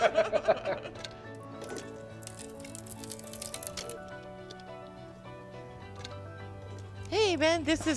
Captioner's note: both laughing; light music continues; wood crackling